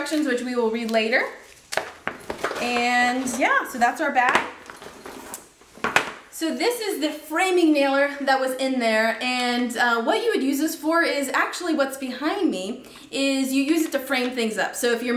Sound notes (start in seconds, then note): none